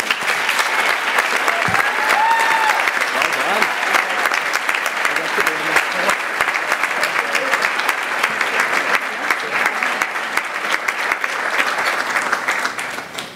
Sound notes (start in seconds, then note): 0.0 applause